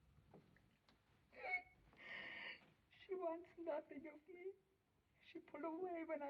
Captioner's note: sobbing